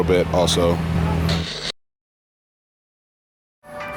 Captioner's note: static